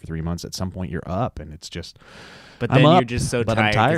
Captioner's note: breathes deeply